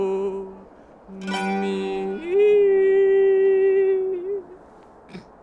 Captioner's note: falsetto